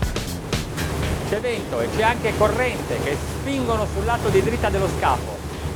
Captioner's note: upbeat rock music; speaking in foreign language